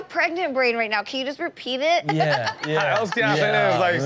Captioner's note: Chanel laughs